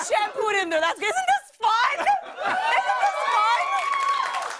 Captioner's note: cheers